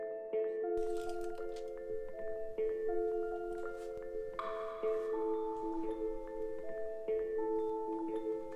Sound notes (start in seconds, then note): 0.0 tranquil music; 0.8 paper tearing